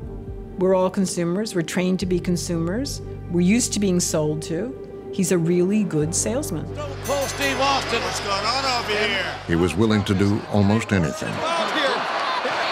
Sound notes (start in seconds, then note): 7.0 bell rings